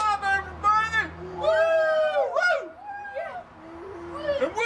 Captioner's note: hooting and a-hollering